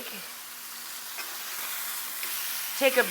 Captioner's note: pan sizzling